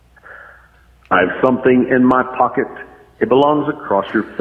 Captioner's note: male Voice